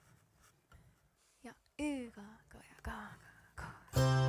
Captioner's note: counting in Finnish